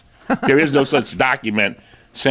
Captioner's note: laughs